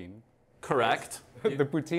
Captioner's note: laughter